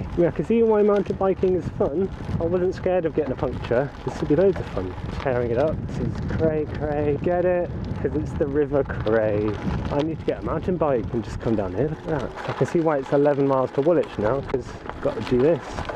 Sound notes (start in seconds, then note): none